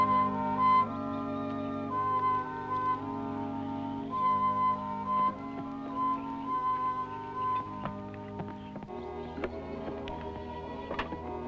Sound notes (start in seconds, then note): 4.3 equipment clattering; 4.3 gentle music